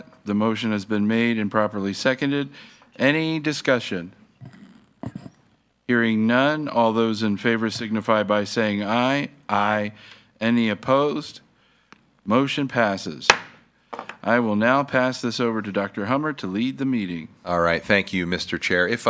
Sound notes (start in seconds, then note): 13.3 gavel thuds